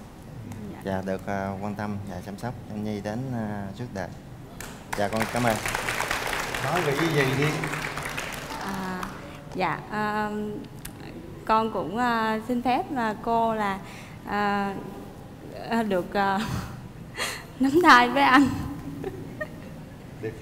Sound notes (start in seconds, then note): 7.6 clap